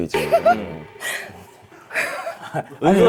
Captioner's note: eun-soo suddenly burst out laughing